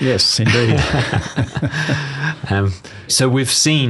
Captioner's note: both laughs